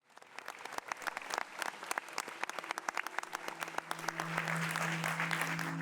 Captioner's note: audience applauding